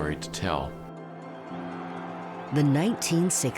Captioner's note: crowd shouting